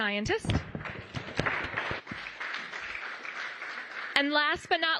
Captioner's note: applause